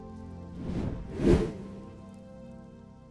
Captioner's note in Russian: Звук перехода